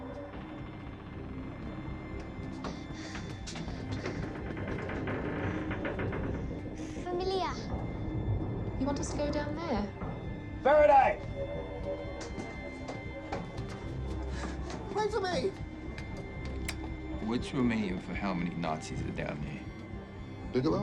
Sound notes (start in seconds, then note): 0.3 pensive music; 0.3 ship creaking; 7.2 Mya speaking in foreign language